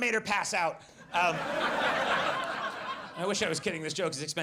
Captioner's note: audience laughs